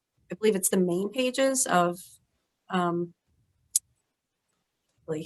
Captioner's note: audio blurs